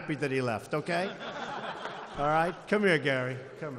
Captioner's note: laughter